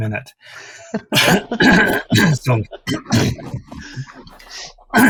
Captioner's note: laughs